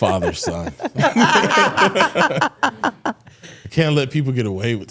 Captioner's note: all laughing